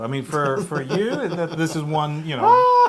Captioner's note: laugh